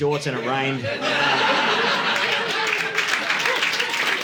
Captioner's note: audience laughing